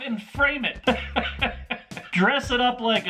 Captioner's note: laughter